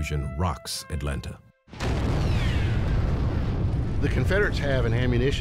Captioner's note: explosion